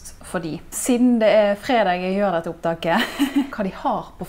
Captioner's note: haha